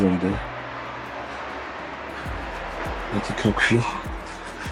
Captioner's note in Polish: Aplauz